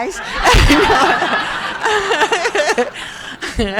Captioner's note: crowd laughing